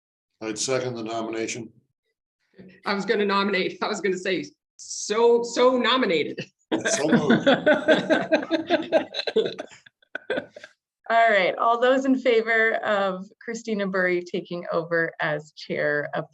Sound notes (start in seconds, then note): 6.7 laughing